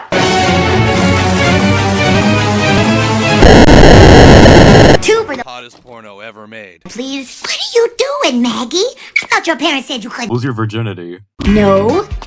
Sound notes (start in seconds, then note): 3.3 dramatic Glitch #2